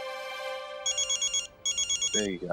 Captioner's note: phone ringing